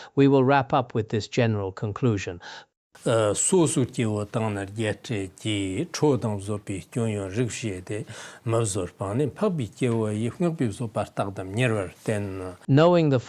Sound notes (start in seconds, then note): 2.9 giving oral transmission in Tibetan